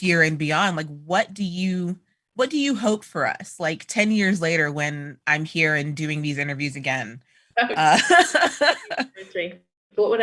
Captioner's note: laughter